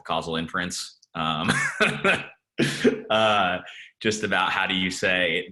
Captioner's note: laughs